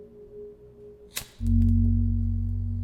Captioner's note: lighter flicks